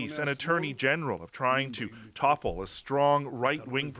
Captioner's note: speaking Foreign Language